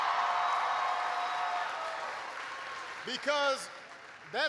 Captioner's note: applause